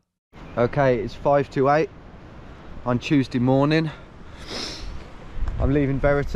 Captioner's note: sniffs